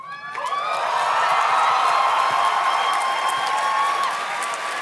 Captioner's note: audience cheers and claps